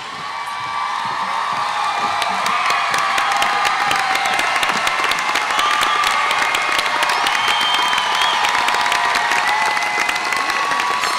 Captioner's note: cheering; applause